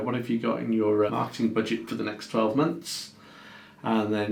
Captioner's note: none